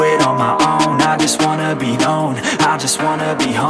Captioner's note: timer beep